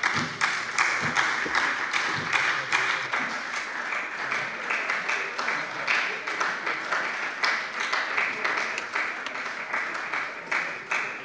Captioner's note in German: Beifall bei der SPD